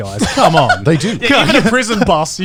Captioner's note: chuckling